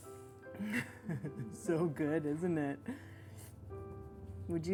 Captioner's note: laughs